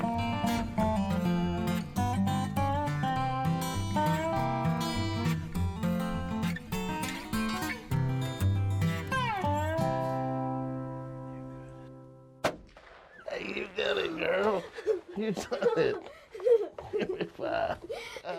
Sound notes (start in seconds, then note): 12.4 gunshot fires; 14.2 chuckling